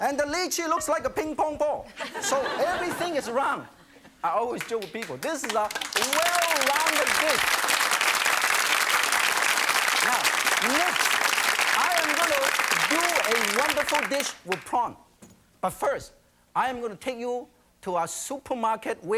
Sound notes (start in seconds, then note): 7.2 applause